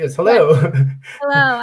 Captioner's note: laughs